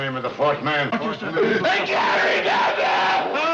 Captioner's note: wailing